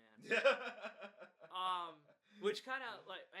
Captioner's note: laughs